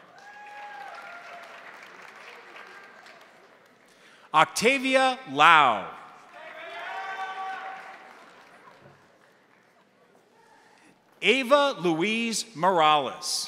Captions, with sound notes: (crowd applauding) (crowd cheering) Octavia Lao. (crowd applauding) (crowd cheering) Ava Louise Morales.